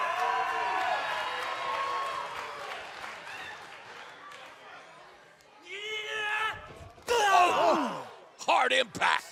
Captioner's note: cheers and applause